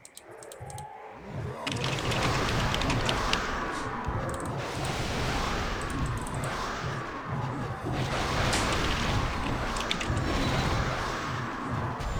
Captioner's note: typing sounds